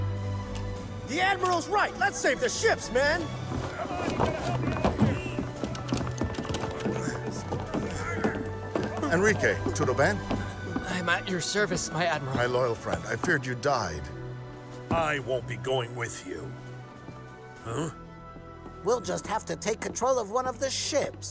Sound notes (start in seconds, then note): 3.7 sailors shout